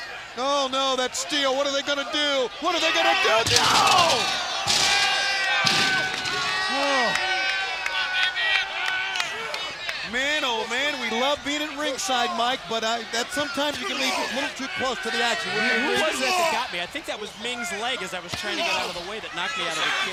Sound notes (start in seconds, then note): 8.1 crowd chatter